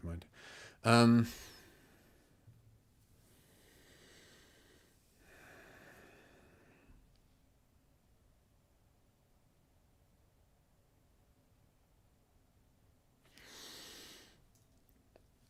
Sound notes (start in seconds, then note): 0.3 silence